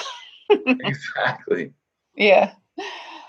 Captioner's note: laughs